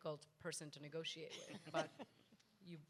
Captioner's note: panel members laugh